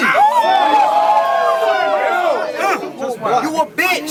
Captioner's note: crowd Reaction